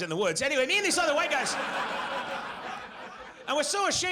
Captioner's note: audience laughs